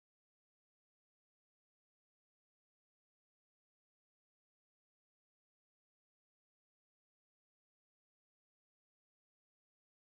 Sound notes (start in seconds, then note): none